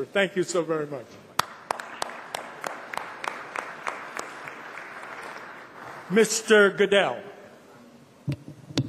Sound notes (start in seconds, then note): 1.3 applause